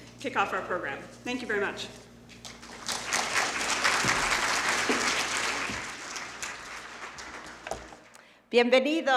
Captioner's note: applause